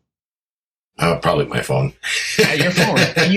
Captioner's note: laughs